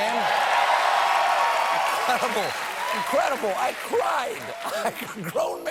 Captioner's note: cheers and applause